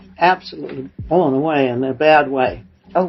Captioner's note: none